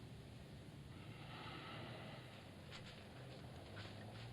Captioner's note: sighing angrily